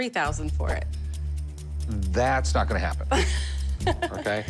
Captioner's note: laughs